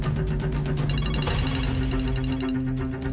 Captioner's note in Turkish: Telefon çalıyor